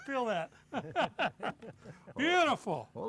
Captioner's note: laughter